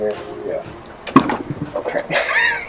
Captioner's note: knocks something over